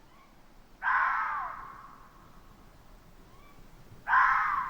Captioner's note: animals screeching